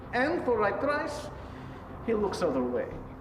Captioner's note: none